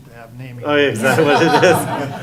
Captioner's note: laughing